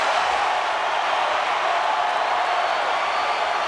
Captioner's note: crowd cheering